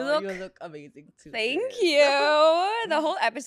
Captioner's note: laughs